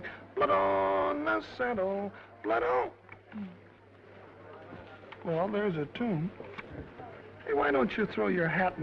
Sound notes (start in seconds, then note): 3.2 attendees chattering